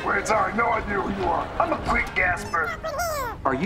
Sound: squeaking

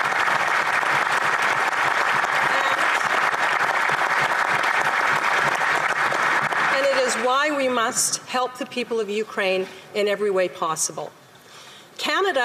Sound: applause

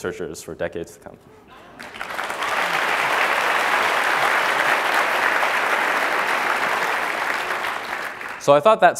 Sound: applause

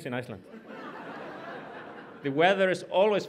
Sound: audience laughs

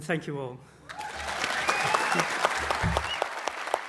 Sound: applause

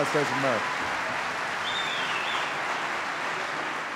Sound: applause

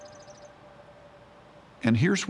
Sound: birds chirping

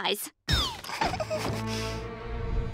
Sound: stammering

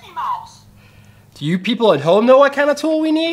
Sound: voiceover

